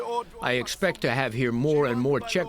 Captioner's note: through translator